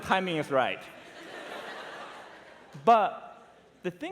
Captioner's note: laughter